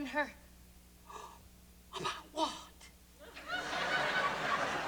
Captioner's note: gasping; laughter